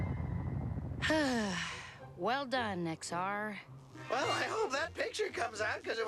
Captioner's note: sighs